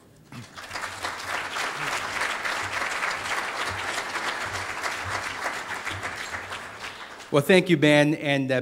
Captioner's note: audience applauding